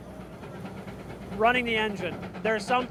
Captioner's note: engine whirrs